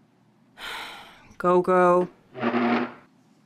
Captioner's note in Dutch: zucht